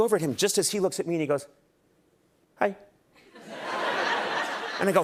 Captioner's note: laughter